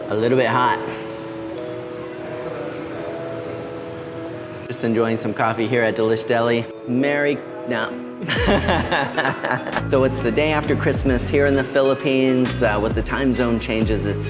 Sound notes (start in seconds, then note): 1.3 bright festive music; 8.2 chuckles